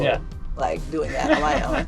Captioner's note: laughs